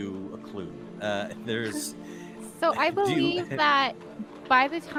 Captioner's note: laughs